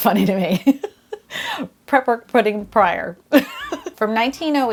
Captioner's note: chuckling